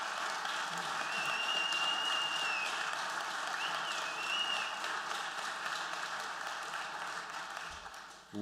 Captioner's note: applause; whistling